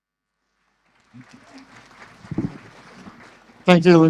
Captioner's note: audience applause